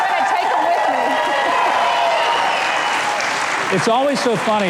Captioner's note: audience yelling